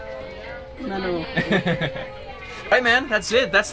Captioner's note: laughs